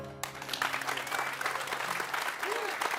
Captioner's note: applause